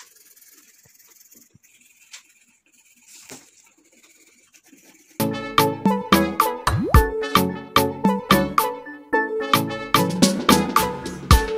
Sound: colouring pencil sound

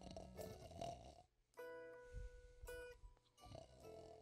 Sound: snoring

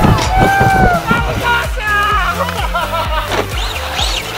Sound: cheers; laughs

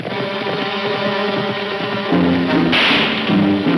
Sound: gunshot

